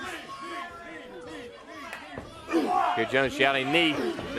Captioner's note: crowd chatter